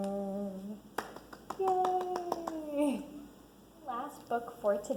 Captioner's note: clapping